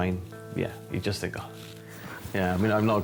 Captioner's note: exhales